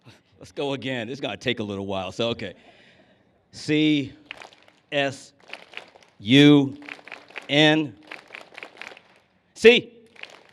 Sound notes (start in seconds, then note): 3.7 clap; 4.2 clapping; 9.8 claps